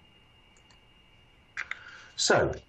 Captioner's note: mouse clicks